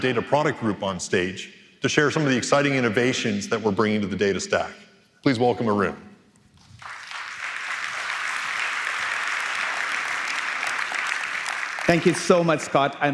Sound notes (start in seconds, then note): 6.6 applause